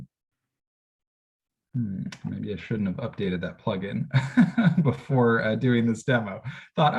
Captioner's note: laughter